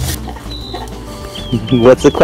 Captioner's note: laughter